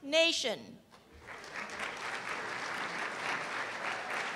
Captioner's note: applause